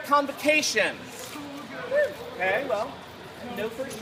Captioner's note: murmurs from crowd